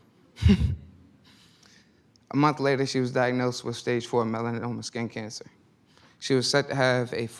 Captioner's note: sighs